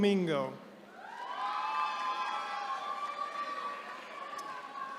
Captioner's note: attendees cheering